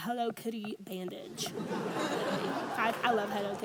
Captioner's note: audience laughs